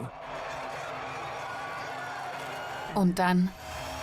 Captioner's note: crowd cheering